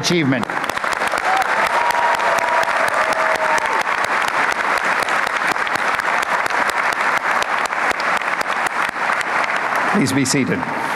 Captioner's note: applause